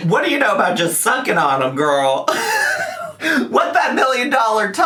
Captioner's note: laughs